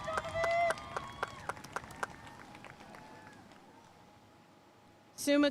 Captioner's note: audience cheering and applauding